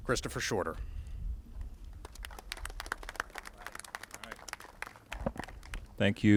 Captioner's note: applauses